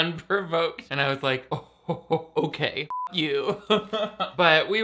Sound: beep; laughing

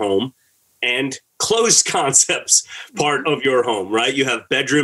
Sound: laughter

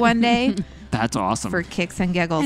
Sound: laughs

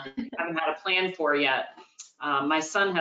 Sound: laughs

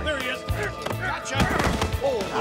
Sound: gunshots

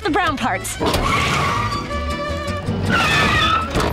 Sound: tires squealing

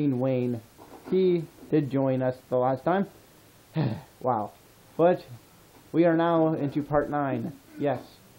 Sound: sigh

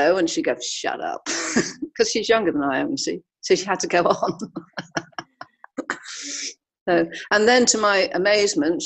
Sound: laughs

